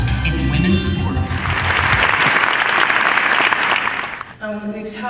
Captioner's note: clapping